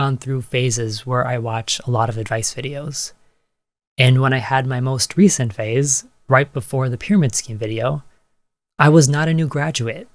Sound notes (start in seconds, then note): none